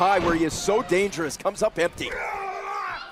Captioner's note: crowd chatter